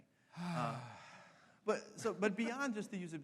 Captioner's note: sighs